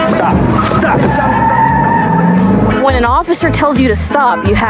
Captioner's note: tireses s screeeechch